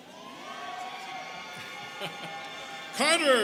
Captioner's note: students cheering